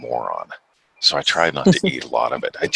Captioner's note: chuckles